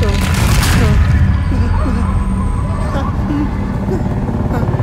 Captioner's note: ground loudly cracking; dog barking